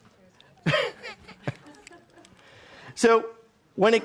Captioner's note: chuckles